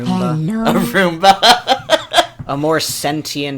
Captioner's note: laughs